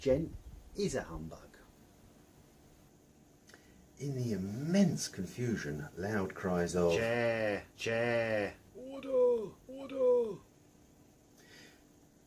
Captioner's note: cries of "Chair" and "Order"